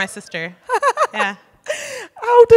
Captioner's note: laughs